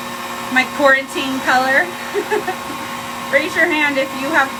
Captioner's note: laughs